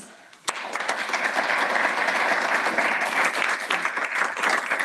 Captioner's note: audience applauding